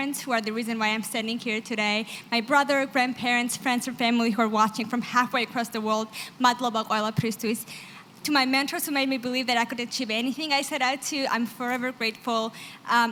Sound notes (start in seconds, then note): 6.3 georgian